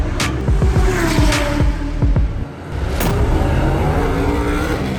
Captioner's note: car engines roaring